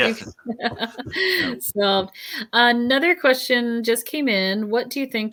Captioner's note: laughs